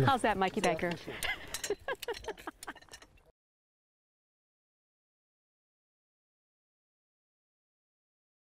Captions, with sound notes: How's that Mikey Baker. [laughter]